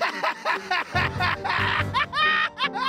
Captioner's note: maniacal laughter